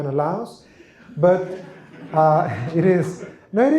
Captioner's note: laughter